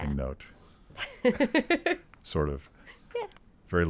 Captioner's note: laughing